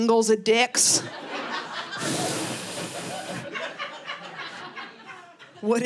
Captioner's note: audience laughing